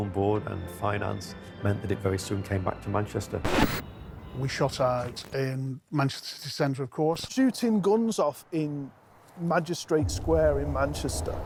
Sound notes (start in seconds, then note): 3.4 record scratch